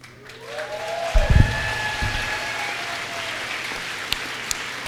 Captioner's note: applause